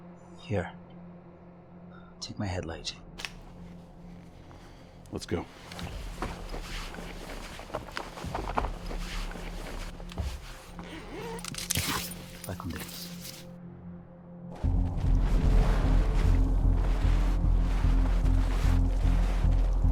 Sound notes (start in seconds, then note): 12.1 Carlos speaks in foreign language; 14.6 footsteps crunching; 14.7 tense music